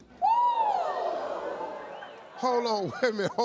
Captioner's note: audience whooping